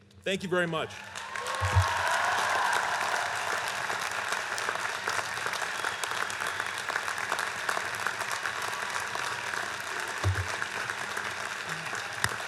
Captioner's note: applause